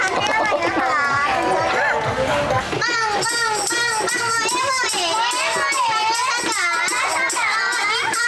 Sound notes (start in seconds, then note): 2.5 laughing